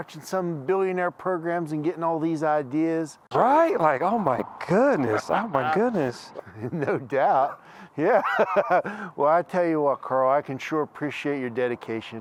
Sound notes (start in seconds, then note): 8.3 laughs